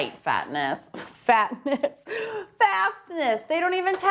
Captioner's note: laughs